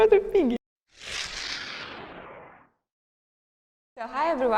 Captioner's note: electronic swooshing